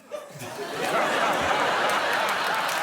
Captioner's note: laughter; applause